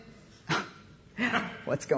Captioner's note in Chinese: 冷笑聲